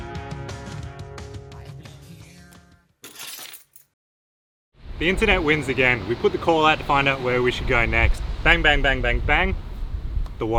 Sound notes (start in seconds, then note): 3.0 keys jingling